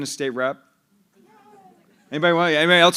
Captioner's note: laughter